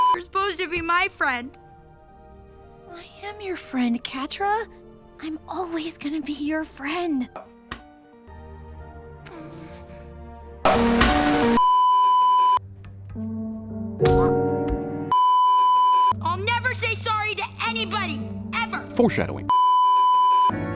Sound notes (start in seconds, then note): 11.4 beeeeeeeeeeeep; 15.1 beeeeeeeeeeeep; 19.5 beeeeeeeeeeeep